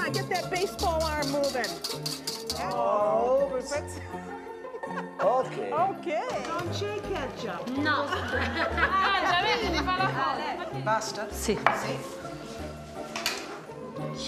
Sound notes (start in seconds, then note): 6.8 speaking Italian